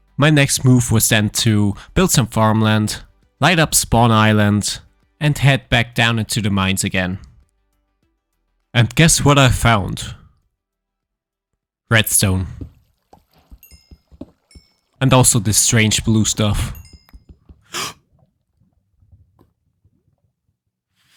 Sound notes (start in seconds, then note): 13.2 experience tinkling; 17.6 gasping